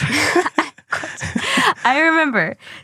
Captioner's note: laughs